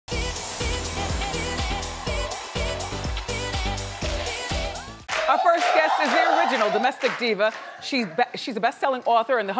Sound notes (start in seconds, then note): 5.1 audience chanting